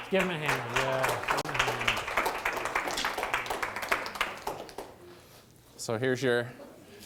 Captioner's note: applause